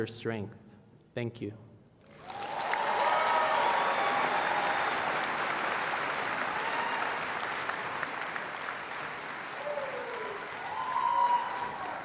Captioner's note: applause